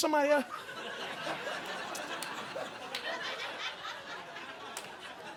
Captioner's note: audience laughing